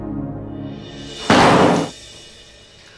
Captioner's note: Door closes